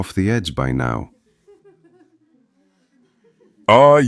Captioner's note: audience: faint giggling and murmuring